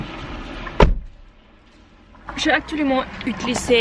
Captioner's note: distant hums from other engines in the car park; door closed